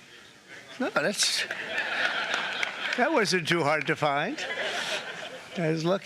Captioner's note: applause